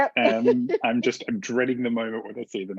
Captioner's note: laughs